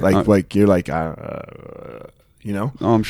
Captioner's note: grumbling